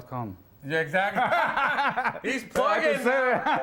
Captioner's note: both men laugh